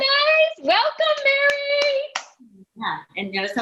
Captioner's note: clapping